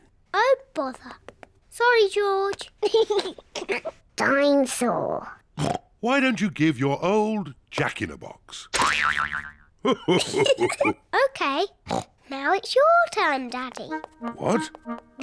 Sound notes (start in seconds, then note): 2.8 laughs; 5.6 oinks; 9.8 laughs